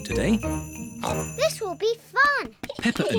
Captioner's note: oinks